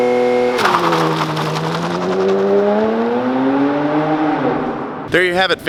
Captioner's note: engine roaring; tires carving asphalt